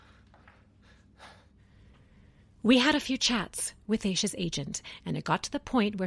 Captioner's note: sighs